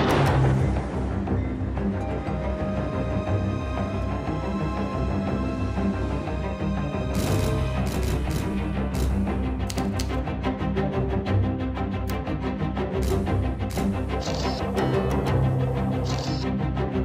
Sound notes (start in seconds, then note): 0.3 mysterious music; 7.1 cameras snap